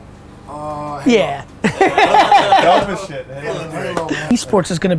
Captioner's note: group laughter